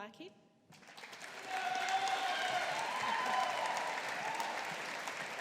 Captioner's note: audience applauding